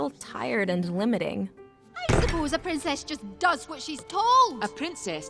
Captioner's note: raising her voice